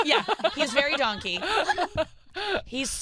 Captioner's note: laughing